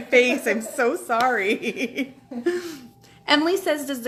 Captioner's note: laughing